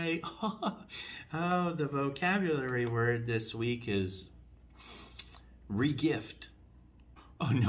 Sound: takes deep sniff

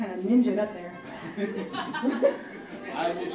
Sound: audience laughing

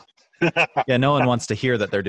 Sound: laughing

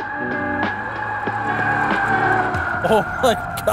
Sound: tires screeching; upbeat music

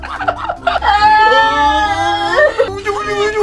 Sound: crying

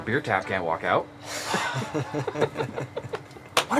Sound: both cops laugh

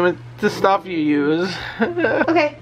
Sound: laughing

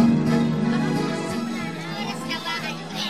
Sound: indistinct chatter

